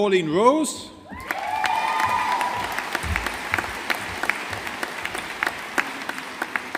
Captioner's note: audience applauding